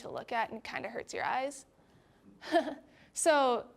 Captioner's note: chuckling